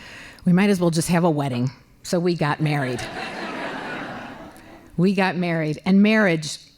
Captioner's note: laughing